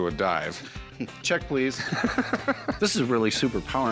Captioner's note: laughs